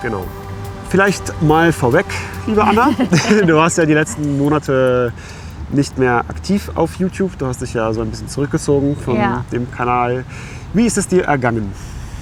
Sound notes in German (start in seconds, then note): 2.4 gelächter